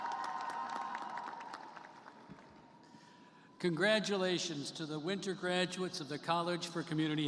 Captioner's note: cheers and applause